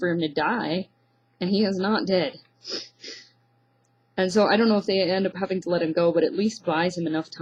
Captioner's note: snort